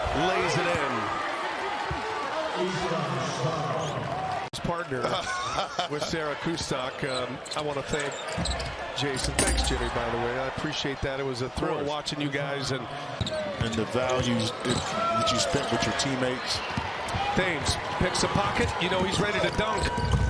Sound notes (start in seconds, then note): 3.8 applause; 3.8 cheers and applause; 5.0 laughter